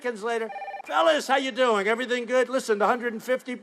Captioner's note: phone ringing